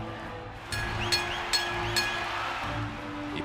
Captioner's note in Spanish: campana sonando